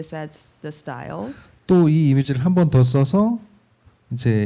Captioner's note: speaking korean